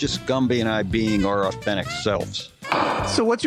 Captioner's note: sound of gavel